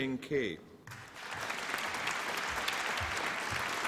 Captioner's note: applause